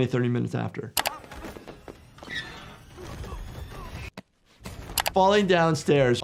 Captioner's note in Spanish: personajes gruñendo